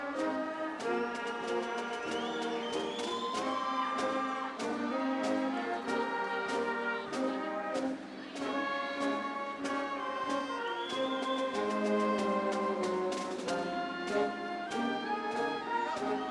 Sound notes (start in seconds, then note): 7.6 audience cheering; 7.6 upbeat ceremonial music